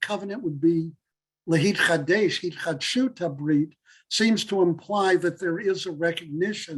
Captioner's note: Hebrew